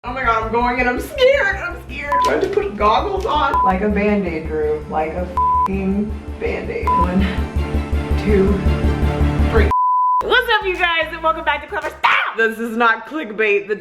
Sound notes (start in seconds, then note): 5.4 beep; 9.7 beep